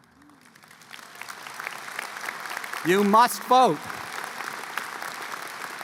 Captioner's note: applause